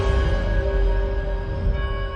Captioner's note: bell tolling